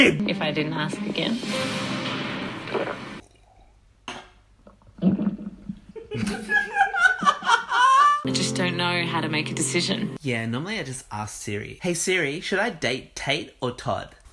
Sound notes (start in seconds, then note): 2.6 gulps loudly